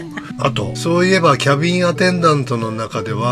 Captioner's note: laughs